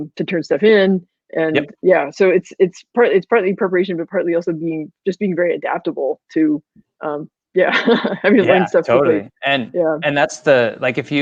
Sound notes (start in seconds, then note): 7.8 laughing